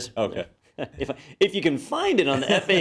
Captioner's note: laugh